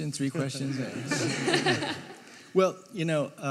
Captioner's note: audience laughing